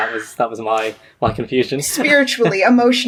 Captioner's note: laughs